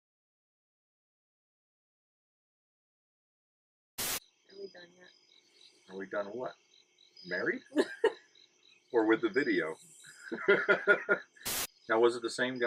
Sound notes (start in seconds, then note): 8.9 laughing